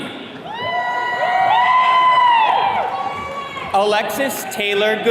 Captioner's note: attendees cheering